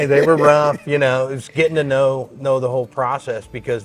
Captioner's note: laughs